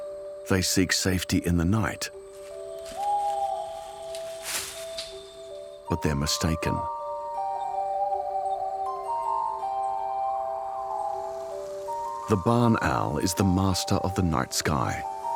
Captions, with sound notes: They seek safety in the night... [owl hoots] But they are mistaken. [ethereal music playing] The barn owl is the master of the night sky.